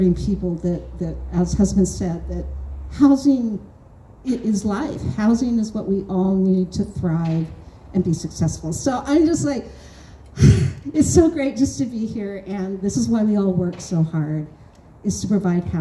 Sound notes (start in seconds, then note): 9.7 audible sigh